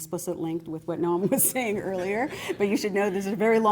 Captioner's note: laughter